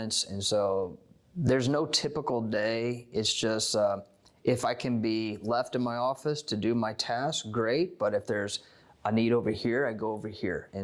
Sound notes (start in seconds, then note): none